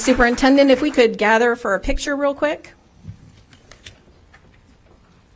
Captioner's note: applause